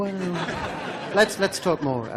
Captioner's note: laughing